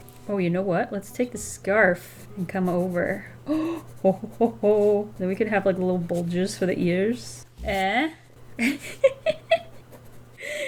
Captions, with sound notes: Oh, you know what, let's take the scarf and come over. [Gasps] Whoa-huh-oh! Then we could have like a little bulges for the ears, eh. [Laughs]